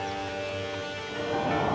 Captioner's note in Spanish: música sombría; viento que sopla